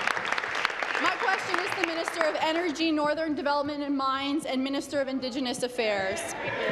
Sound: applause

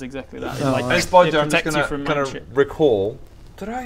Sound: pffst

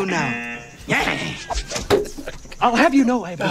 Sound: buzzer; both laugh

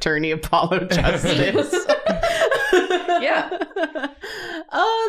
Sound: laughter

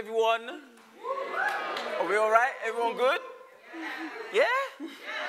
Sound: whoops / cheers

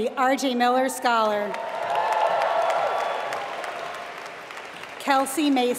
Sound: applause

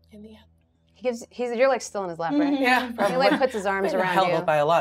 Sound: speaker speaks in a low tone

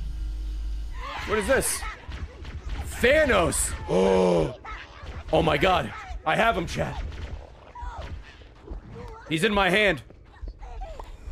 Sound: gasps

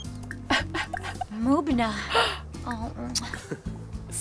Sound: laughing

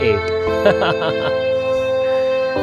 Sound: chuckles

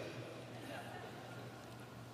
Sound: laughter

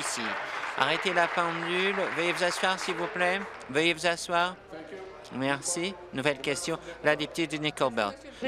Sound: some Applause

